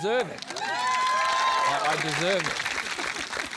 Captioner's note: cheering, applause